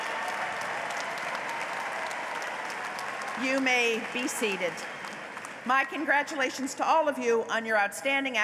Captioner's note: applause